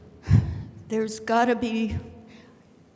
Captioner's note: sighs